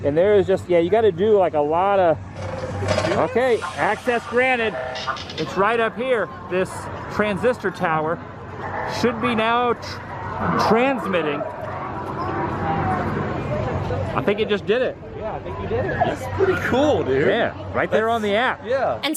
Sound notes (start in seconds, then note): 3.3 antenna beeping